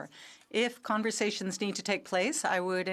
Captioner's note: speaking French